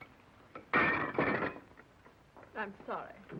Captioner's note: dishes banging